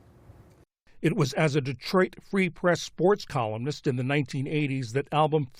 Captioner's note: voice-over